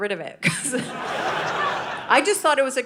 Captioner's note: audience laughing